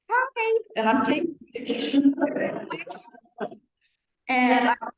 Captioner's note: laughing